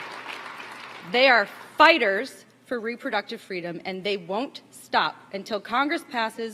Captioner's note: applause